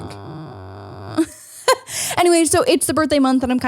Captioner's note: humming